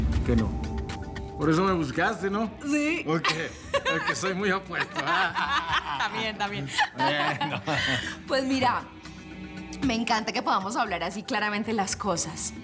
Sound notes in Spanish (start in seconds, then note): 5.5 risas